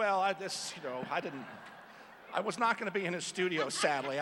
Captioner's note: laughter